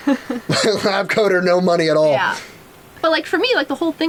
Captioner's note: laughs